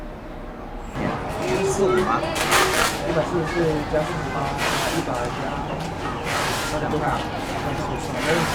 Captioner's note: speaking in Mandarin